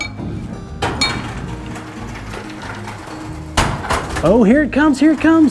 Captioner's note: conveyor belts whirring